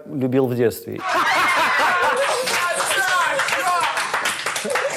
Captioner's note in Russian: смех, аплодисменты